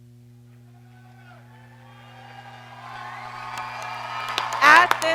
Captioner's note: graduates cheer